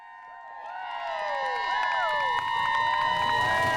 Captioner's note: cheering